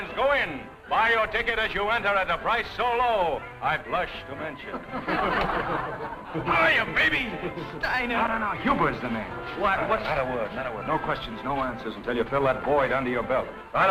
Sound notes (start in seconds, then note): 4.7 laughter